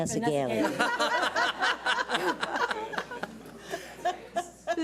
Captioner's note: audience laughs